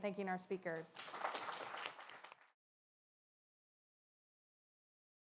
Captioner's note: audience clapping